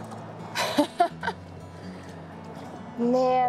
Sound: laughs

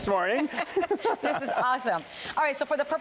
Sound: laughter

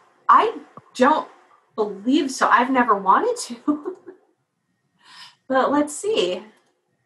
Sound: laugh

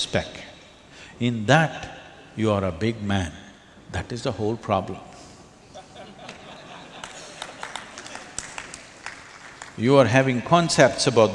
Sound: laughter/Applause

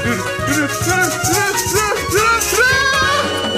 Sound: shrieks and squeals

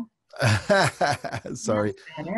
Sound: laughs

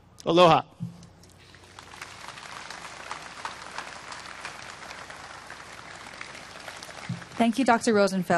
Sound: applause

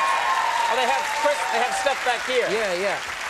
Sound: applause

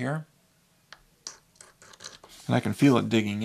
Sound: quartz scraping

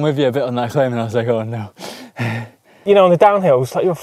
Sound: gasps

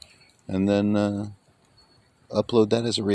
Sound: none

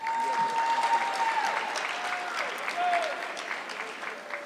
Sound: audience clapping

